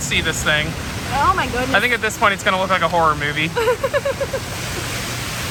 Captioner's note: laughs